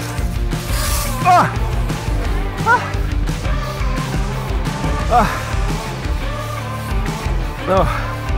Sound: panting

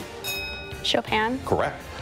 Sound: bell dings

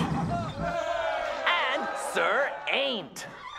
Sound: cheering

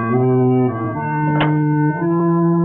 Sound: bonnet closes

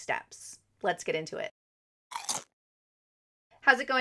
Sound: crunch

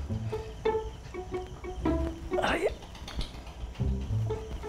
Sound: softly Grunting

